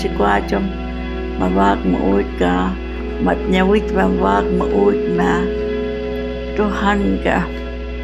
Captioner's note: speaking Hualapai